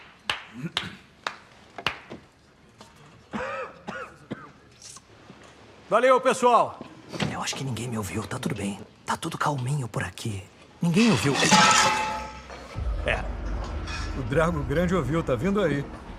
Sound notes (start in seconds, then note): 0.5 prisoner 1 clears throat; 3.3 prisoner 2 coughs; 6.3 whispering; 11.0 objects clattering